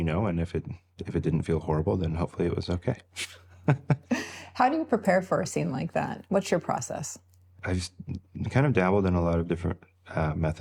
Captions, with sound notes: and if it didn't feel horrible, then hopefully it was okay. (laughs) - How do you prepare for a scene like that? What's your process? - I've kind of dabbled in a lot of different methods,